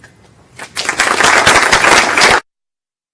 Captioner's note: applause